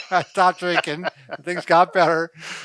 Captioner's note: laughing; laughs